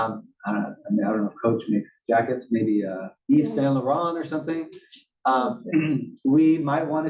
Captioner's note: cough